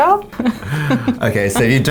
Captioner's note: laughing